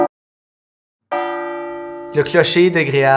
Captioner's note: bell tower rings